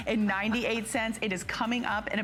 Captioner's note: laughter